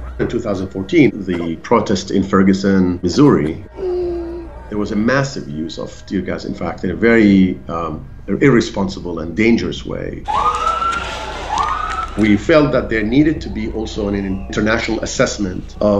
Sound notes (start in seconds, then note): 10.2 siren wailing